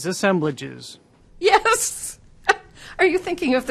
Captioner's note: laughing